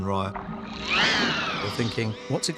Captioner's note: shrieks